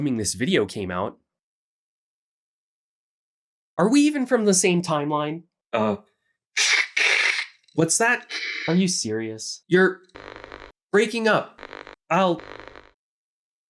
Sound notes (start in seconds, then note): 5.7 fake static noises; 8.2 more fake static noises; 12.3 Static